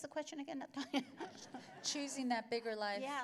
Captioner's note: laughter